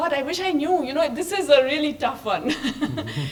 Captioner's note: laughs